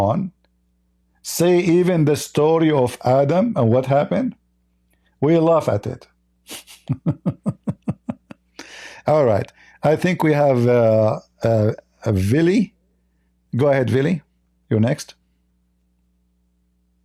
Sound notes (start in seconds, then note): 6.4 Ketawa